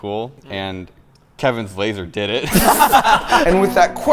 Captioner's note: friends laughing